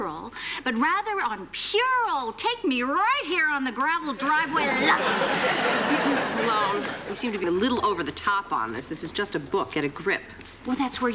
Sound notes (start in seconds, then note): 4.2 laughter